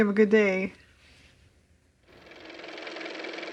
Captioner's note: car motor